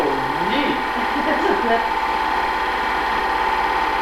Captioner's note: laughs